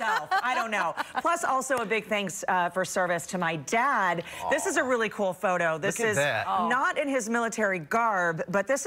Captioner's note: laughter